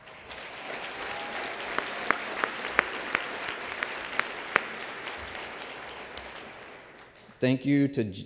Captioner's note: applause